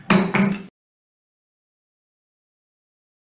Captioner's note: gavel banging